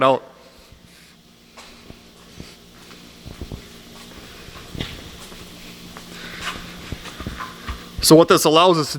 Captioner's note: footsteps